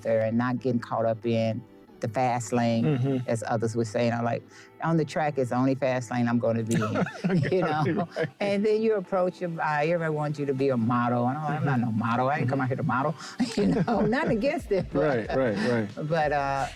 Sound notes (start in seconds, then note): 6.7 laughs; 13.4 Jackie and Wale laughing